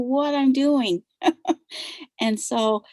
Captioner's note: laughs